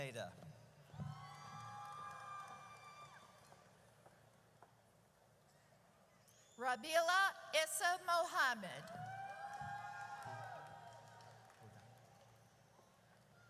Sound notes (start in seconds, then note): 1.0 audience cheers; 8.9 audience cheers